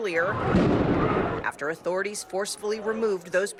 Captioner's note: crowd chanting